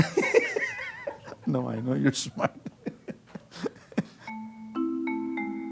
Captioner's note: laughter; laughter